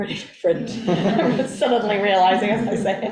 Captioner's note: group laughs